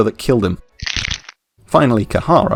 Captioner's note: neck Snap!